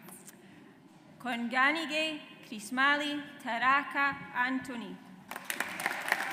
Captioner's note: audience applauds